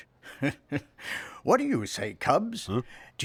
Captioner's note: chuckling